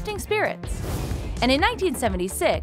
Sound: scene whooshing

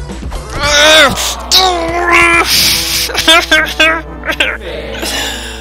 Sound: crying

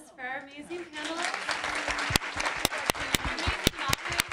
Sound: applause

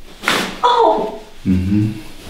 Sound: the girl screams after massage

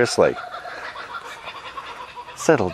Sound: birds squawking

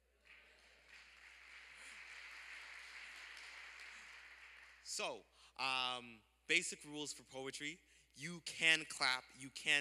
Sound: applause

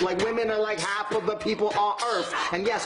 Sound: beat boxing

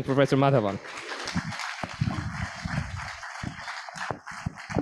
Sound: applause

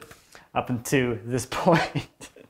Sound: laughs

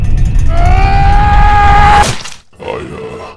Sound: screaming intensifies

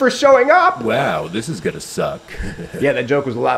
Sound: laughs

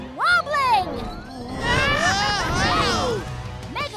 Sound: screaming

